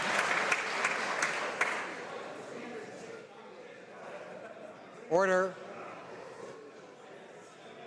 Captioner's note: some Applause